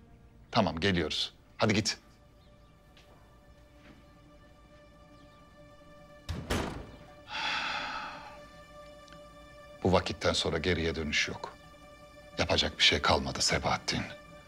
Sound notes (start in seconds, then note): 6.2 the door closing sound